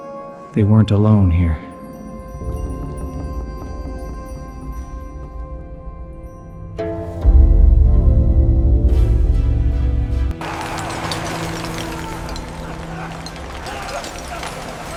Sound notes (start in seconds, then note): 2.4 ruins rumbling; 8.4 instrumental music; 8.4 screaming